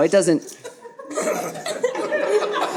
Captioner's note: audience laughing